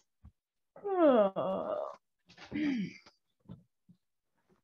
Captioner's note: MORGAN yawns